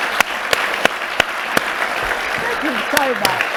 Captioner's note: and audience applauding